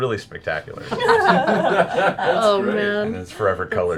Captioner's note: laughter